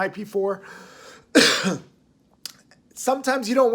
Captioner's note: coughing